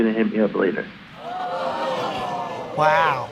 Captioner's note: audience exclaims